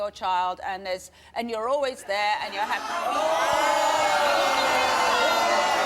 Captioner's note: audience shouting